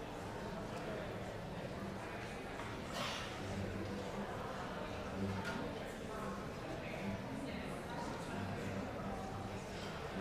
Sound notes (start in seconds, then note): 0.0 congregation continues chattering